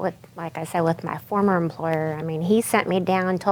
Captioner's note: none